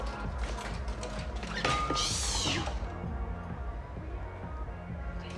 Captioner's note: metal bangs